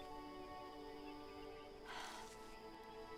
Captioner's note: Alora sighs